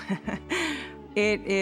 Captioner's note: chuckles